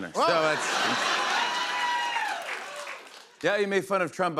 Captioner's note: laughter, cheers, applause